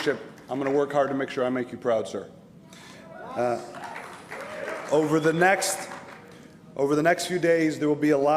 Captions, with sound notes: [ APPLAUSE ] [ CHEERING ] THANK YOU MR. SECRETARY FOR YOUR FRIENDSHIP AND YOUR LEADERSHIP, I'M GOING TO WORK